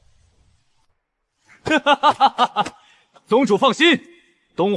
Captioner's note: mocking laughter